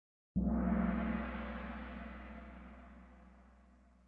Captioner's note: gong